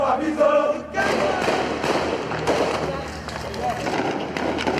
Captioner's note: people chanting; guns firing